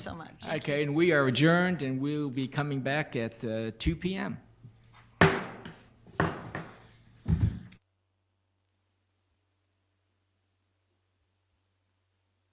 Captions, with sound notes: - Okay and we are adjourned, and we will be coming back at 2:00 p.m. (gavel banging)